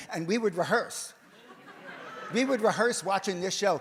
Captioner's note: audience laughs